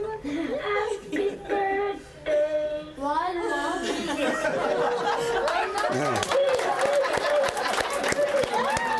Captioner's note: cheers and applause